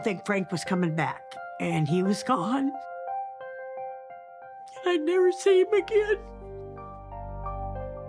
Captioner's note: sobs